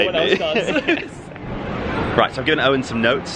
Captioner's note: laughing